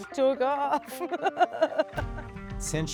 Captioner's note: laughs